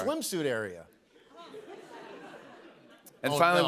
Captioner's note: laughter